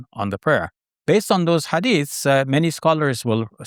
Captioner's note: foreign language